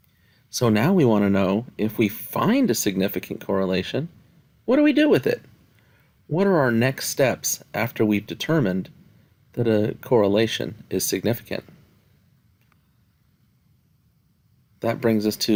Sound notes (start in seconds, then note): 11.7 no Speech Detected